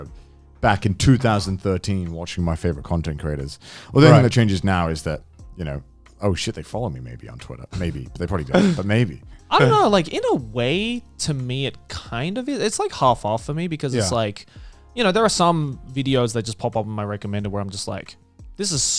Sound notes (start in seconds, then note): 14.0 affirmative murmuring